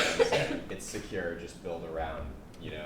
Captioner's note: coughing drowns out other voice